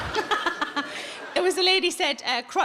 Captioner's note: audience laughs; Sarah laughs